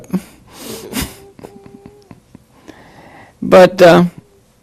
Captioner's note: chuckling